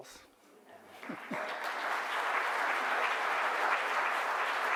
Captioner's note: audience applauds